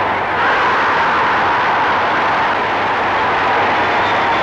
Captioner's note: crowd roaring